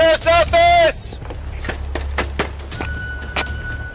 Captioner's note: man shouting